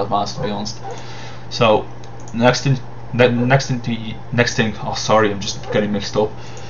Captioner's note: stuttering, got distracted by barking dog